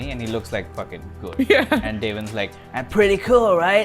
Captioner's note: laughs